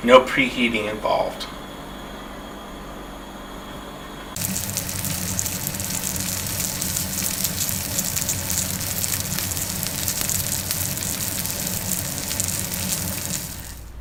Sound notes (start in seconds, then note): 4.3 salmon sizzling sound